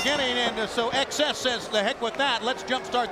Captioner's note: bell ringing